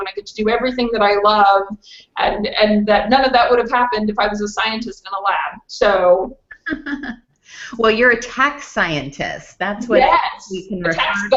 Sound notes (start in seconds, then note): 6.5 chuckles